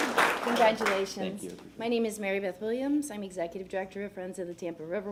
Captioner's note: applause